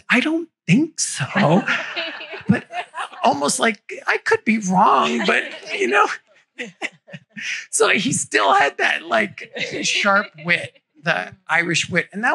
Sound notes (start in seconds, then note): 1.2 laughter